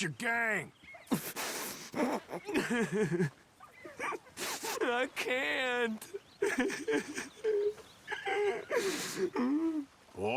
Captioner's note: sobbing